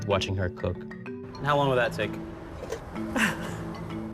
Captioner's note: chuckles